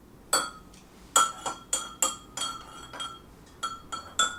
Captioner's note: spoon clanging